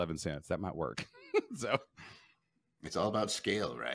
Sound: chuckling

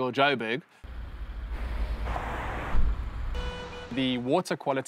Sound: bustling commotion

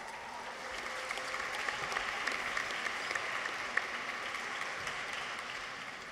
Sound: audience applauds; people cheer

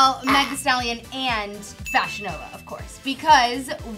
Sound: bell dinging

